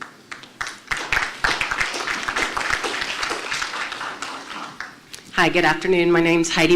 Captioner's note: applause